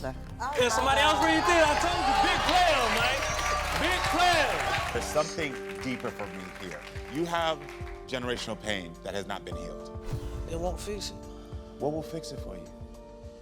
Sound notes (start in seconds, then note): 2.9 audience cheering